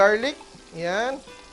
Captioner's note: sizzle